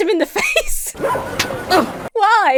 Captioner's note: laughs; dog barks; hand smacks; grunts